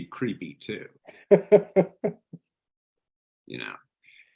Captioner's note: laughing